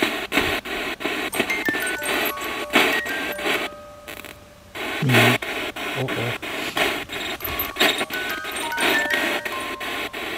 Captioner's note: radio noise from the spirit box